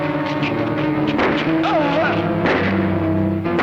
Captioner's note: firing